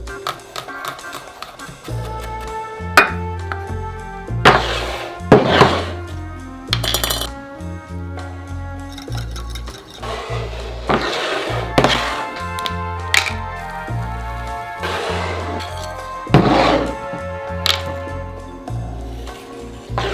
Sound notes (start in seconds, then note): 0.1 knife chopping; 4.5 bowl sliding; 9.1 fork whisking